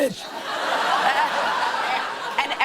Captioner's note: laughter